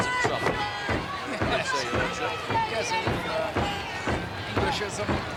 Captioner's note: footsteps plodding